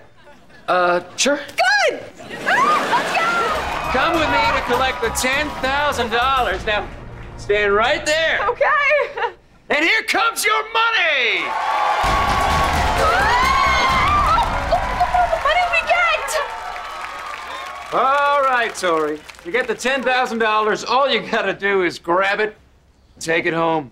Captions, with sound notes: - Uh, sure. - Good. Let's go. Come with me to collect the $10,000. Now... stand right there. Okay. [chuckles] And here comes your money. [cheering] Look at all the money we get. [audience cheering] Alright, Tori, you get the $10,000, all you got to do is grab it, take it home.